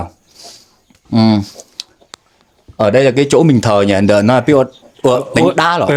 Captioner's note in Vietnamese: khịt mũi